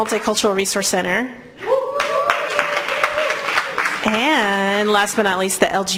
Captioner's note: applause